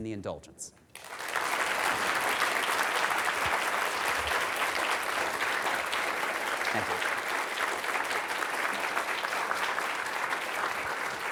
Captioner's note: applause